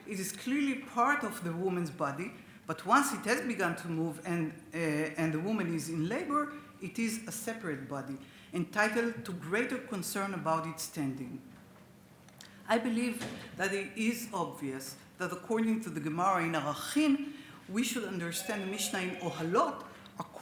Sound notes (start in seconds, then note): 16.8 speaks Hebrew